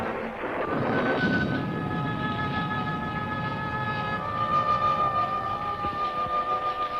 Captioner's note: thunder rumbling; pensive music